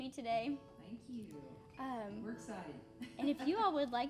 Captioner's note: laughing